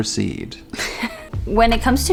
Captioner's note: laughing